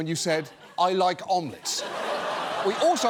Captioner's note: audience laughing